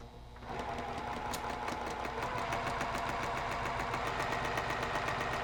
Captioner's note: sewing machine humming